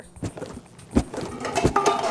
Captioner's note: air puffs out of box; cups hit the floor